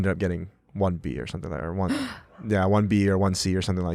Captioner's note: gasp